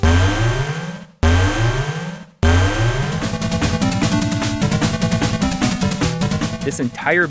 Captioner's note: game audio: boss alert